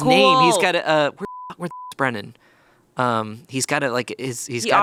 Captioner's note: beep